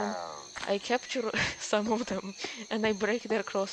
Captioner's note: snicker